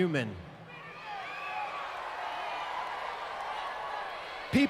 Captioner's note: crowd cheers